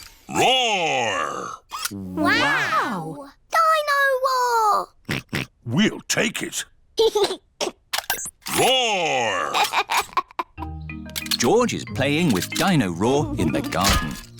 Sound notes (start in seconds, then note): 5.0 oinks; 6.8 giggles; 9.3 giggles